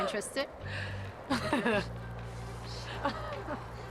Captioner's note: laughs